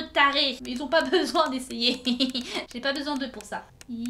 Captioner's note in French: Rires